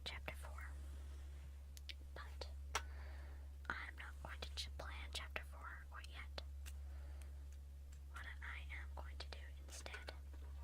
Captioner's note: tapping on notebook